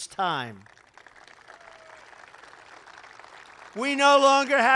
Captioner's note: applause